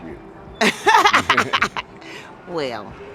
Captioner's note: laughing